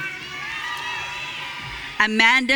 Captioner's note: audience cheering